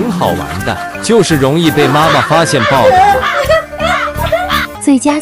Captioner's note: ha ha ha ha ha ha